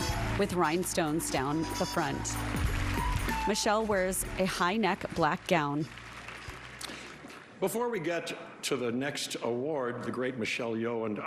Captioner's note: applause